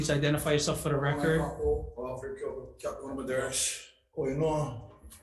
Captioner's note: speaking Hawaiian